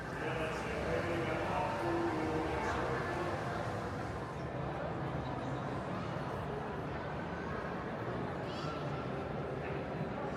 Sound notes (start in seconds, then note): 0.3 gondolier singing in foreign language; 4.6 people chattering